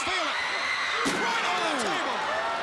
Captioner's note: crowd cheering